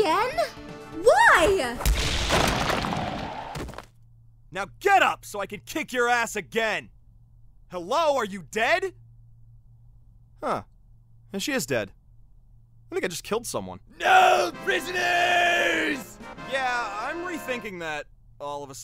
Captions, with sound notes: WHY?!?! (KA-SMAAAASH!!) Now get up! So I could kick your ass again! Hello, Are you dead?! Huh, oh she is dead. I think I just killed someone. NO PRISONERS! Yeah, I'm re-thinking that all of a sudden...